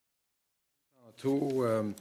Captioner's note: speaking French